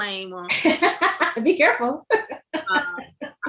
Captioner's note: laughs